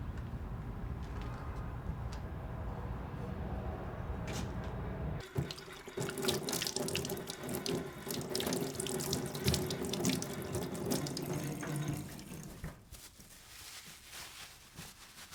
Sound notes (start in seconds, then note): 0.1 traffic humming faintly continues; 5.2 water splashing; 11.9 towel rustling